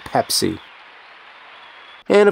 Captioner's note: crowd cheers